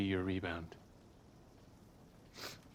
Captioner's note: sniffles